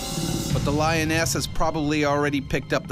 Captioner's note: voiceover